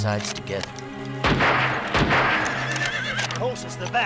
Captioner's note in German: Waffen schießen; Pferde wiehern